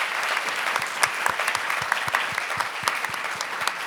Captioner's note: applauds